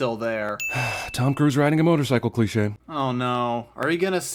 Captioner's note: sigh